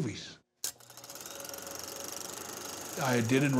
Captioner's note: projector whirring